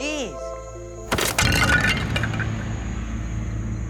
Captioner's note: clay breaking